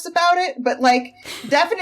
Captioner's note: laughs